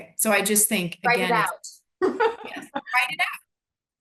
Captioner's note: laughs